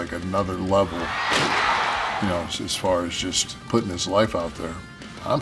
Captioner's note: applause